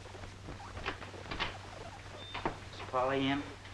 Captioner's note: door clicks